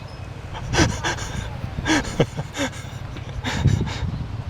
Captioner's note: laughing